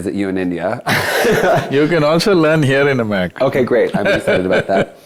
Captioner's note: laughs